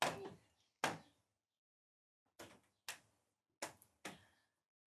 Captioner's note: Stille